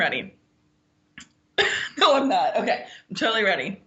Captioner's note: laughs